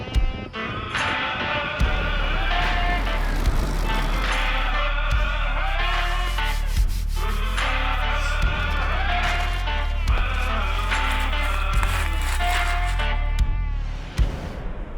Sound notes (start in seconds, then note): 5.6 rustling